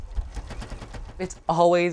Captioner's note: sewing machine